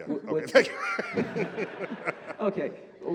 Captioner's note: laughter